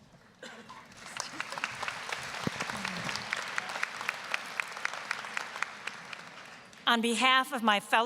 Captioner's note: applause